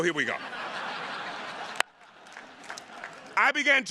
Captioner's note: audience laughing